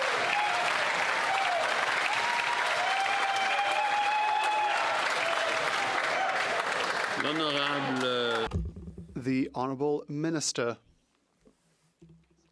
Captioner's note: some Applause